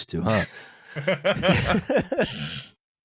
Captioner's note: laughter